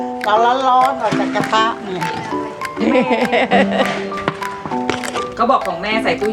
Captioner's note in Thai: เสียงหัวเราะ